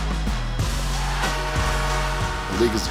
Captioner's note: upbeat music continues; crowd cheering